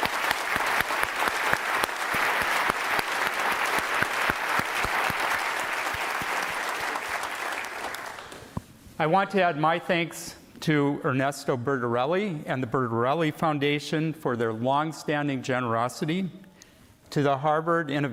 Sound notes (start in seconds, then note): 6.2 applause